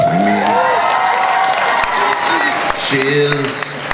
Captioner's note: crowd cheers and applauds